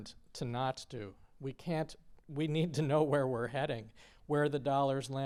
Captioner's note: laughter